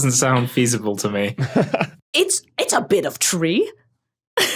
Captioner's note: chuckles